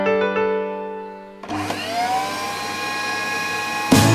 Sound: vacuum turning on

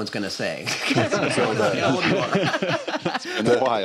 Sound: laughter

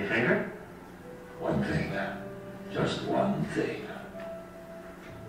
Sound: voiceover

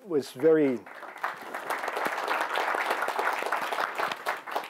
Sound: applause

